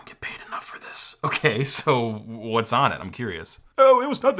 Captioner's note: chuckles